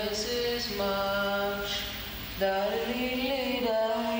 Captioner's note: humming